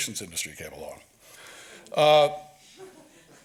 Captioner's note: audience laughs